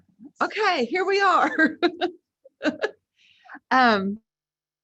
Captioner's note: laughs